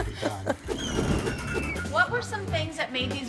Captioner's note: laughs; wheel screeches; wind whooshes